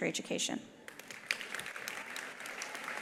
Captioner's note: attendees applauding; attendees cheering